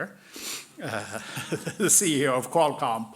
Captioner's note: laughing